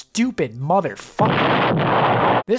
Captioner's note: explosion